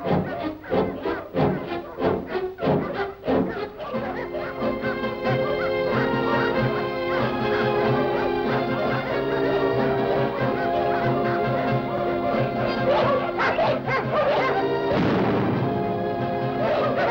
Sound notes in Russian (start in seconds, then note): 14.9 звук выстрела